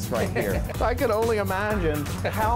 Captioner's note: laughter